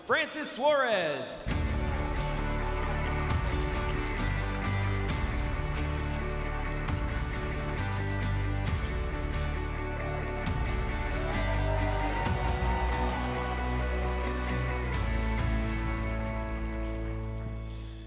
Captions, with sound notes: Francis Suarez. (bright upbeat music) (crowd clapping) (crowd cheering) (bright upbeat music)